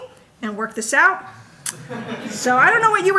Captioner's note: audience laughing